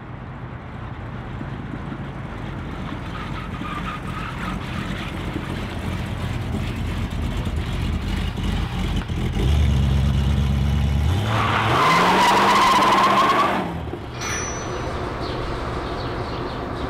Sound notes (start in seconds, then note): 5.8 muffler rumbling; 10.8 tires squealing